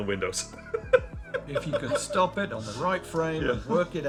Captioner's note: laughing